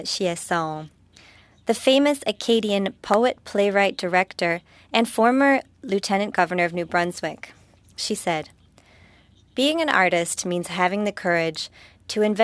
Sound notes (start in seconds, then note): 7.5 speaking French